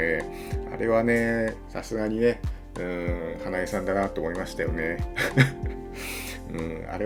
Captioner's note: laughter